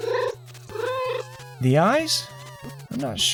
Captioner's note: meow